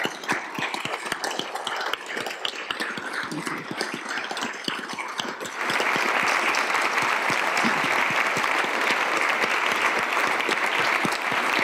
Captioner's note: applause